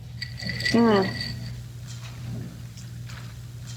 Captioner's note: ice clinking